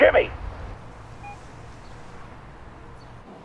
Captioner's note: phone beeps